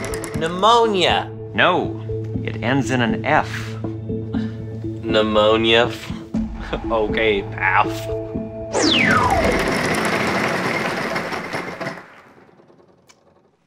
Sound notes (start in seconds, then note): 4.2 scoffs; 9.0 sound of wheel turning